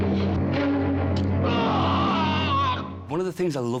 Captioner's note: man screams